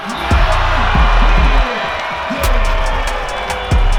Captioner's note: crowd cheers